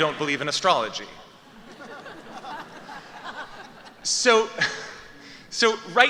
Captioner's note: laughter